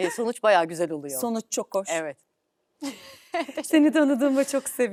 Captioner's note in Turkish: kahkaha; kahkaha